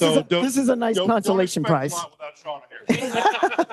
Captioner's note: faintly speaks; all laughing